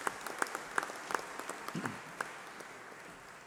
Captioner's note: applause